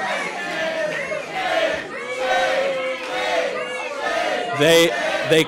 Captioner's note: protestors chanting